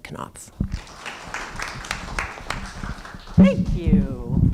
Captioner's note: applause